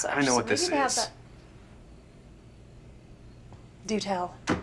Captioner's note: crickets chirping